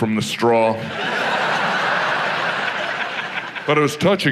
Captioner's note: audience laughs